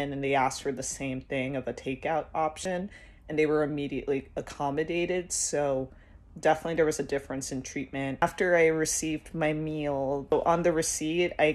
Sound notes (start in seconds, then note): none